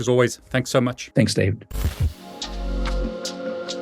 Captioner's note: static crackling; mellow music